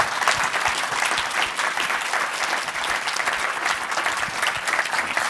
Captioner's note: audience applauding